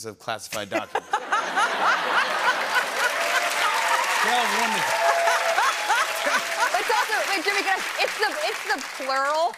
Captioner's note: laughter and applause